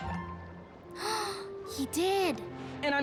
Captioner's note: gasp